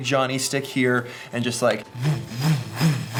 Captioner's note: sound effects